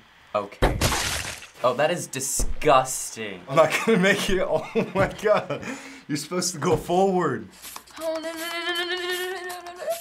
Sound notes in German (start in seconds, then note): 0.8 Blut spritzt; 4.8 Lacht